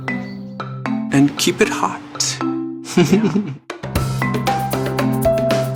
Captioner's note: chuckles